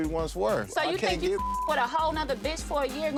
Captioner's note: beep